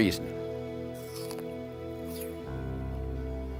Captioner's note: crunches